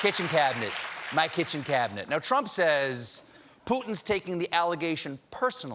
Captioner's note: applause